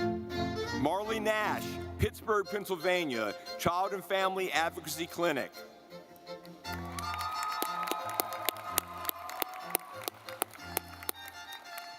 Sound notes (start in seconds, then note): 6.0 lively music; 6.6 audience clapping